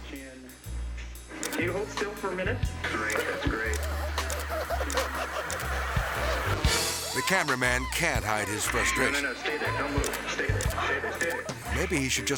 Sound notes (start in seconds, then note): 3.1 legs squeaking